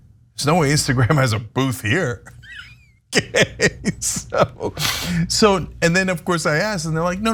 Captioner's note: laugh